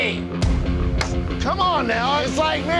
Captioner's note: hand bangs against table